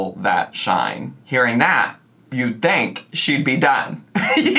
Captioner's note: laughs